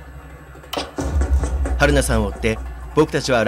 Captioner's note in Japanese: 走る足音：タタタタ...！